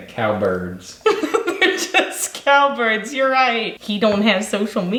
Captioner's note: laughs